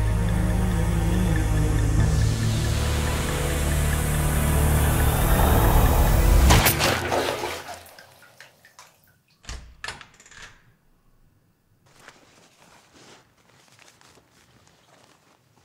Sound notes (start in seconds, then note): 6.1 blood squirts; 6.4 crossbow fires; 7.8 blood dripping; 9.4 door opens; 11.8 supplies rustling